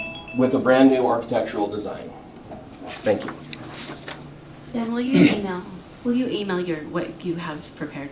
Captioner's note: clears throat